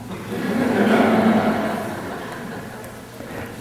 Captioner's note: laughter